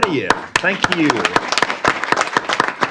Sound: applause

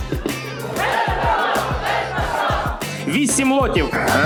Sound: audience shouts

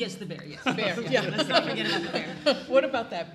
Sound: all chuckling

